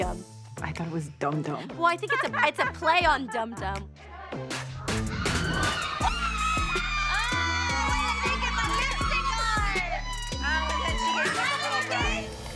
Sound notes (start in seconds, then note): 2.0 laughs; 5.1 screaming joyfully